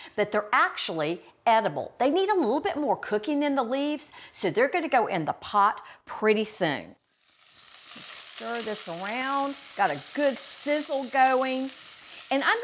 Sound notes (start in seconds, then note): 7.0 oil sizzling